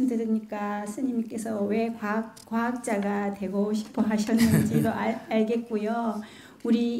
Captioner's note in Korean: 스님 웃음